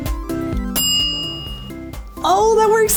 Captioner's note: timer dinging